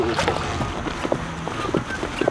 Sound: water splashing; whistling

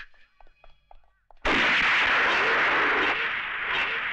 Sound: gun Firing

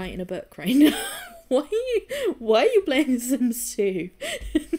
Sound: laughing

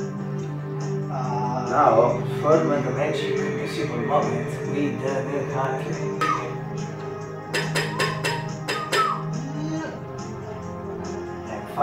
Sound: whistle

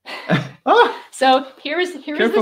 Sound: chuckling; exclaiming

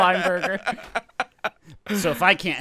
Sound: laughing

